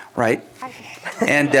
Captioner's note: laughter